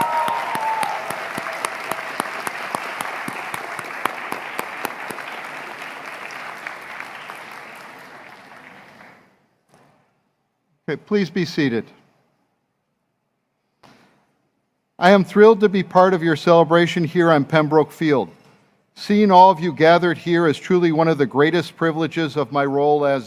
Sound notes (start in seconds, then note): 0.2 cheering; 2.1 applause